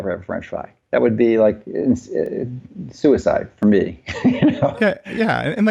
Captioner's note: laughs